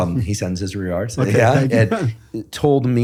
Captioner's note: laughs